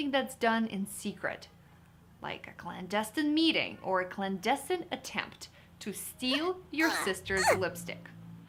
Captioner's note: groaning